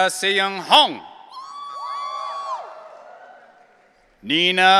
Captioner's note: audience cheering